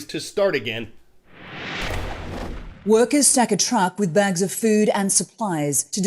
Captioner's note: voice-over